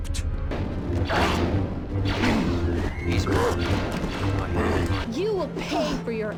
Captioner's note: Yoda grunting and huffing stupidly